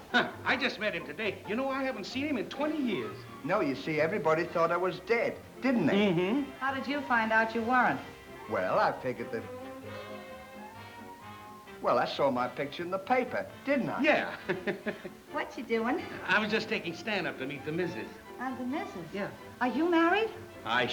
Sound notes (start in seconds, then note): 14.0 laughs